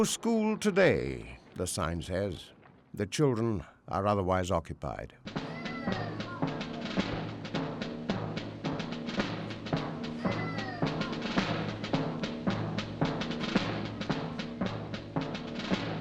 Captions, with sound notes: No school today, the sign says. The children are otherwise occupied. (martial music) (child crying)